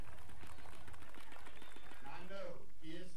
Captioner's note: crowd applauding